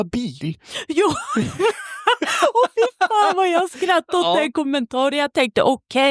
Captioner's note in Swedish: skratt